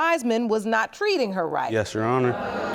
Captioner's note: audience reacts